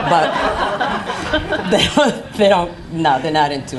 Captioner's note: laughing